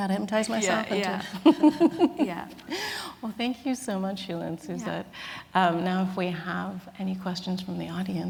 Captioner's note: laughs